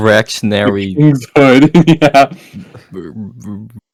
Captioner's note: laughs